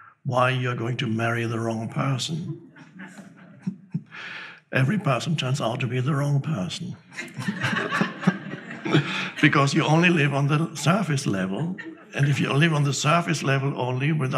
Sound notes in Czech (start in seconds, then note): 7.1 diváci se smějí